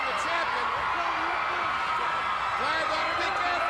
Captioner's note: crowd cheering